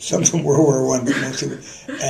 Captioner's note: laughter